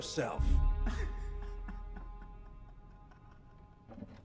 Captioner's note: Crimms laughs